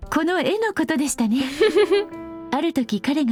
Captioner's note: chuckles